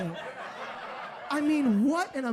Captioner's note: audience laughs